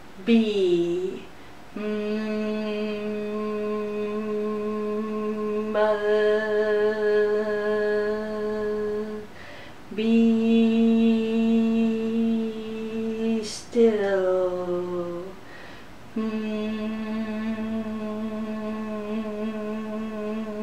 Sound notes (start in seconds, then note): 0.0 buzzing sounds; 0.2 humming sounds; 2.7 buzzing sounds; 12.9 buzzing sounds; 12.9 humming sounds